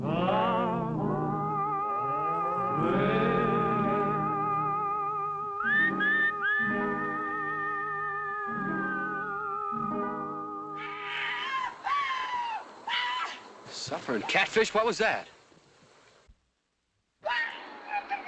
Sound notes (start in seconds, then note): 10.8 shouts; 17.0 shouts in spanish